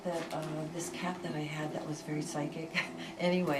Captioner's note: laughs